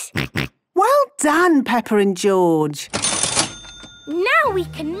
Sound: till rings

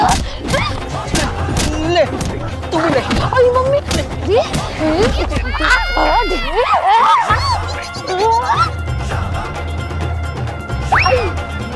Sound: chattering and fighting

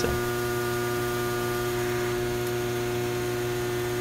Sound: transformer humming

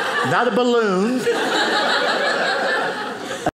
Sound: audience laughing

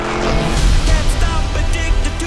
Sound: upbeat music; logo crashes

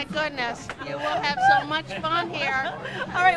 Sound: laughter

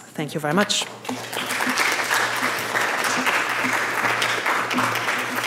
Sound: audience claps

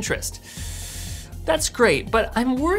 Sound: inhales sharply

